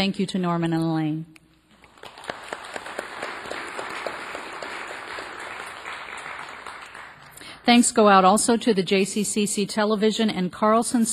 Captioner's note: applause